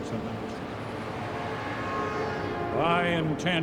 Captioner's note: vehicle horn honks